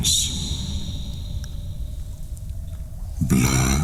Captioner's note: cave noises